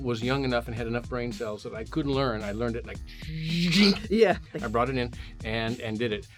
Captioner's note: super speed sound